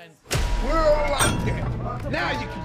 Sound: button beeps; jail cell clanks

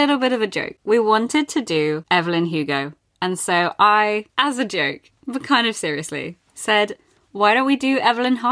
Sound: none

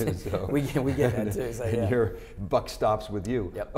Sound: laughing

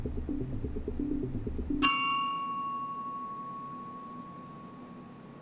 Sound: bell dings

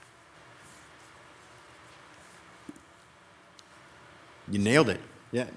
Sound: static roaring

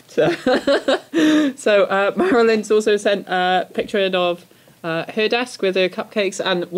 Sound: laughs

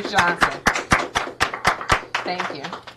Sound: audience claps

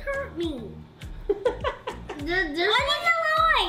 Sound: laughs

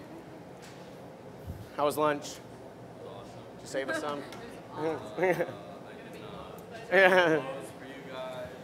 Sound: laughter

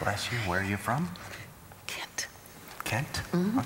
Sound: whispering

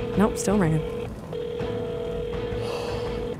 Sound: line ringing; yawns

